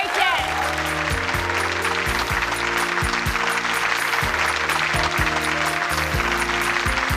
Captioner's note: applause